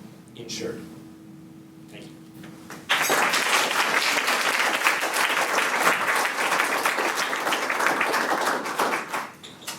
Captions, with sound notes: insured. Thank you. [audience applauses]